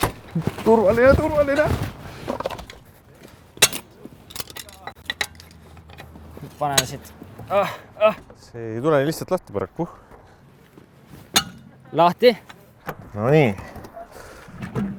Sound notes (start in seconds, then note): 4.4 distant ouch; 7.4 moans